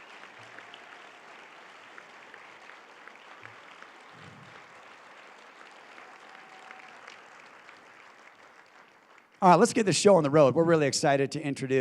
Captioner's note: applause